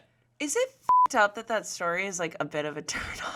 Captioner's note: beep